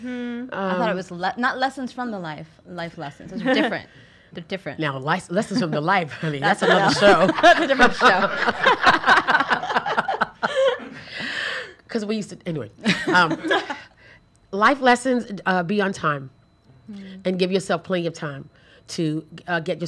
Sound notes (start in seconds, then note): 8.9 laughs